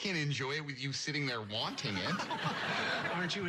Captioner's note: chuckles